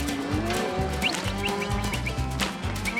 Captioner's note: whistling